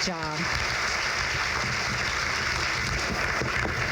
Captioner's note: crowd claps